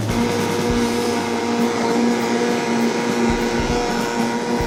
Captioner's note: blender whirring; upbeat percussion music